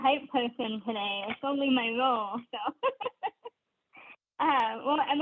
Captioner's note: laughs